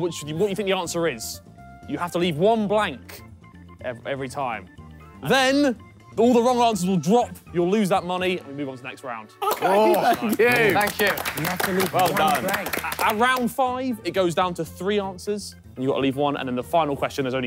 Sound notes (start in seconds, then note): 9.4 all clapping